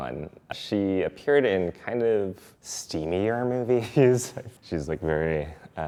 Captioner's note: chuckles